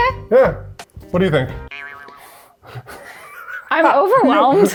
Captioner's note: graphic twang